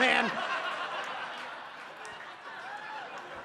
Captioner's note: audience laughs